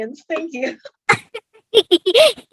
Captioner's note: quietly laughs